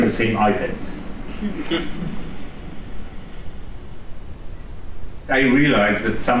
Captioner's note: laughter